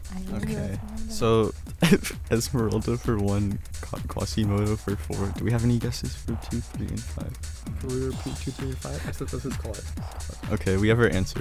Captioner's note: whispering